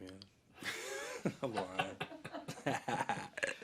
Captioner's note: both laugh